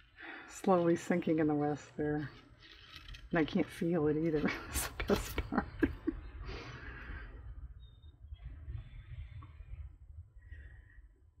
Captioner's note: laughs